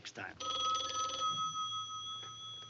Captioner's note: telephone ringing